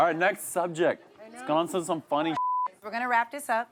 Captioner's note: beep